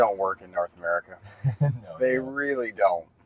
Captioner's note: student chuckles